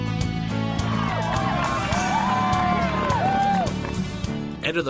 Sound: people Clapping

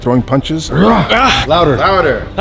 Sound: grunting; grunts

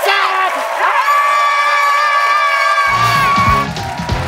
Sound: cheering and applause

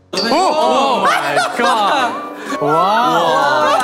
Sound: ahahahaha

